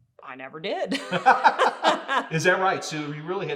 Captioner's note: both laughing